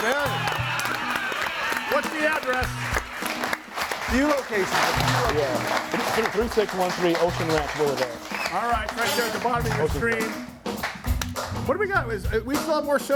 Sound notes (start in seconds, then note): 0.9 audience applauds and cheers; 4.5 audience applauds